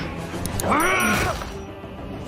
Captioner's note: Invincible groaning; The Immortal roaring; bones crunching